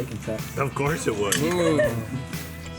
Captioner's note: chuckles